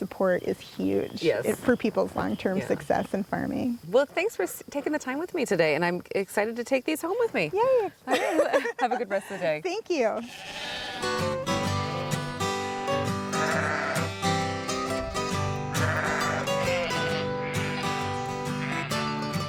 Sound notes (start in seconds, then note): 8.0 giggling; 10.8 sheep baaing and country music